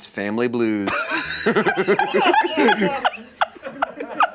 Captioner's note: laughs